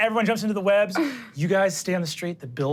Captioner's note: none